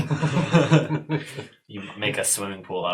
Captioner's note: all laugh